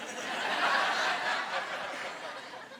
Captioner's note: laughing